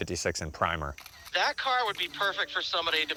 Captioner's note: on phone